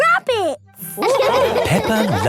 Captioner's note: all laughing